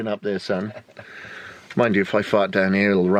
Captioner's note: laughs